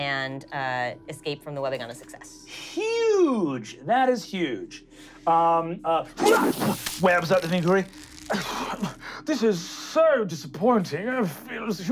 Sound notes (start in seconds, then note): 6.5 splattering; 8.2 coughing